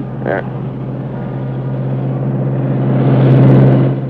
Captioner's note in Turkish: Otomobil motor sesi